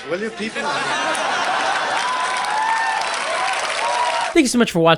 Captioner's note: audience cheering